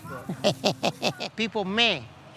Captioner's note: chuckling